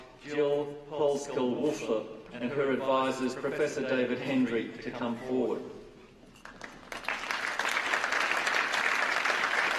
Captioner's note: applause